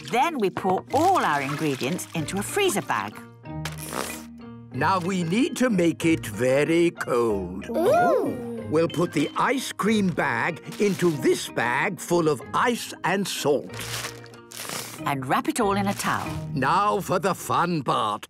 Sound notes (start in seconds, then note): none